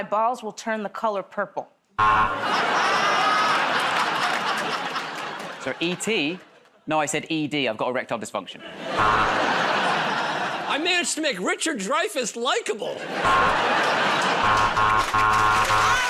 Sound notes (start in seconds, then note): 2.0 buzzer; 4.1 laughter; 8.9 buzzer; 14.3 buzzer